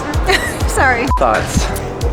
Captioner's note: beep